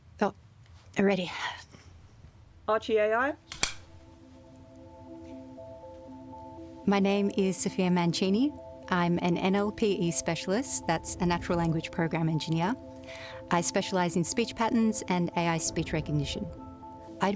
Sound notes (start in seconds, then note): 3.6 pensive music; 3.6 slate clanking